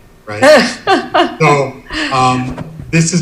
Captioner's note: laughs